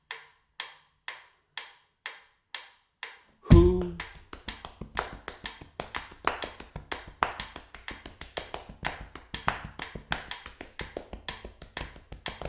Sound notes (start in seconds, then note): 3.5 foot tapping; 4.4 ticking and taping sounds